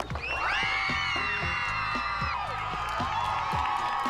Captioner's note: squealing